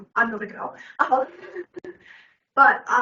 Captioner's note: everyone laughing